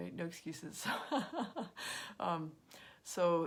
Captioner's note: laughs